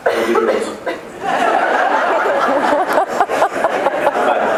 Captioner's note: laughs